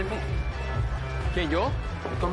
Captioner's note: berbicara bahasa spanyol